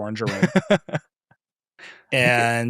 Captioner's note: laughing